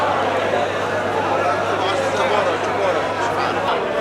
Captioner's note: indistinct chattering